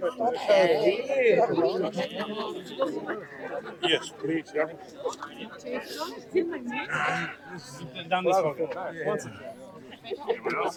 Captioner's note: people chattering